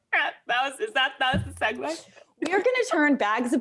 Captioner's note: laughs